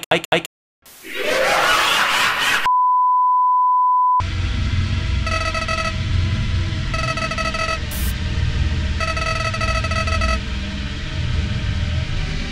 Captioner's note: manical laughter